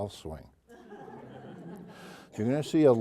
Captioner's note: laugh